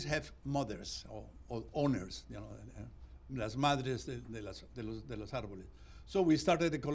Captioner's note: spanish